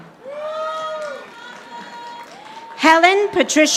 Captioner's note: audience applauding